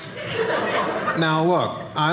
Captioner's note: audience laughing